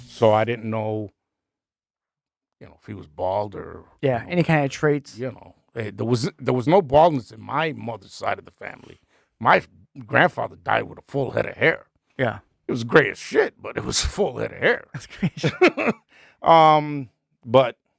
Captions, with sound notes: So I didn't know if he was bald or... Yeah, any kind of traits. There was no baldness in my mother's side of the family. My grandfather died with a full head of hair. Yeah. It was gray as shit, but it was full head of hair. (laughing) But,